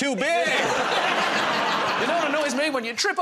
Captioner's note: laughter